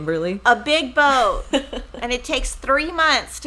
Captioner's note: laughing